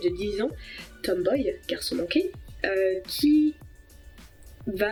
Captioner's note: in french